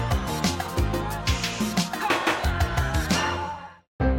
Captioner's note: sound of Tasmanian devil